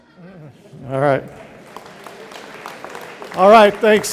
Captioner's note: audience applauding